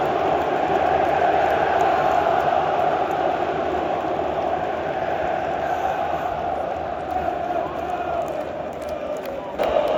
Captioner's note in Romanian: Aplauze